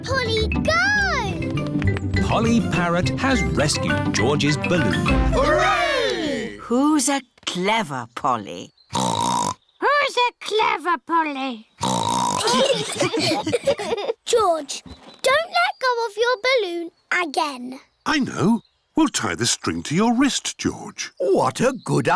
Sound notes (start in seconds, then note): 5.3 all cheer; 8.9 snorts; 11.8 snorts; 12.4 laughter